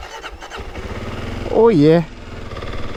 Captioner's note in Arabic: دوران محرك الدراجة النارية